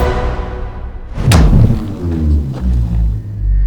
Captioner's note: gun